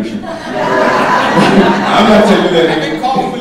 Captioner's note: audience laughing